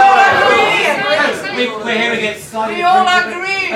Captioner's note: audience disagreement